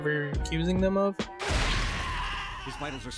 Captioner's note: violent screams